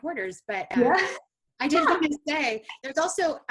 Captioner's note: laughs